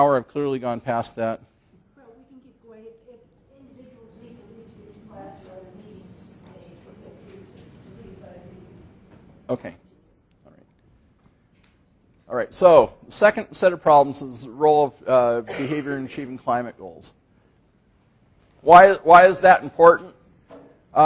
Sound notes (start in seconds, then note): 4.2 faintly speaking